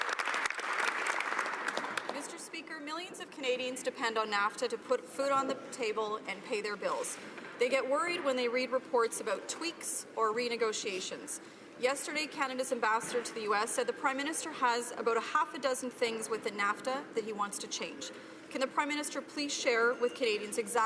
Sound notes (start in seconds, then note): 0.0 some Applause